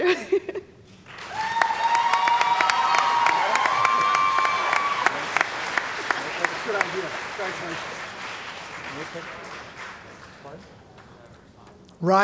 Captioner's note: cheering & Applause